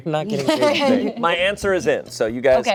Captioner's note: laugh